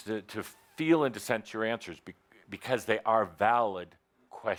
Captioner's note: none